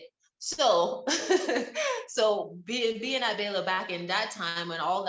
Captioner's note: laughs